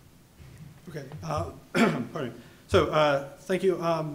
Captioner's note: clears throat